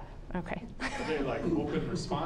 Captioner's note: laughing